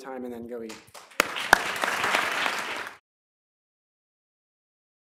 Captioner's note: applause